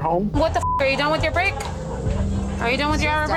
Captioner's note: beep